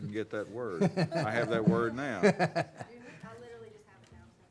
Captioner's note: laughing